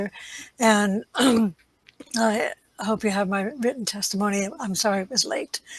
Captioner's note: clears throat